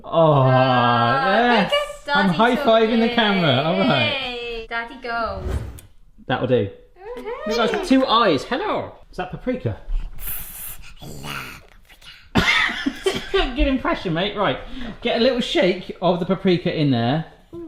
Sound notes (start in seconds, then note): 5.2 air whooshing; 13.0 laughing